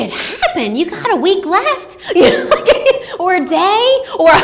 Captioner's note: laughs